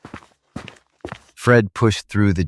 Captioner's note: SFX: footsteps